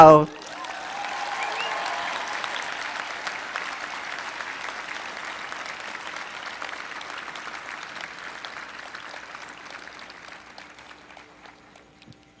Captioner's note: applause